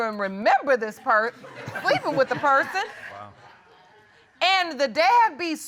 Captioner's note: chuckles